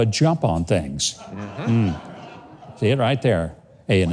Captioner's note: audience laughing